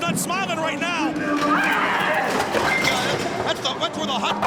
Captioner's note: screaming